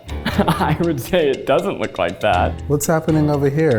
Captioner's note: laughs